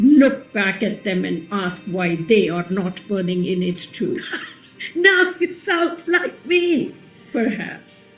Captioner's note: half-laughing